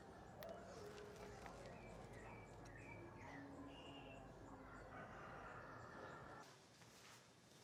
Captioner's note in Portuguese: canto de pássaros